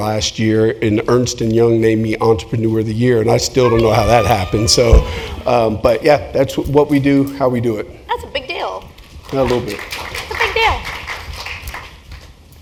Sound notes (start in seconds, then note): 9.1 applause